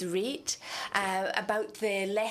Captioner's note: speaking French